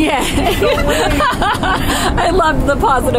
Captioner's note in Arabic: يضحك